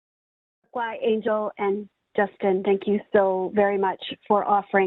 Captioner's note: speaking in native language